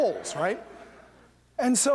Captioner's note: laughter